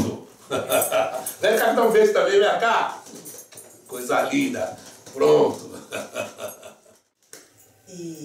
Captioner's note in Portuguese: lacht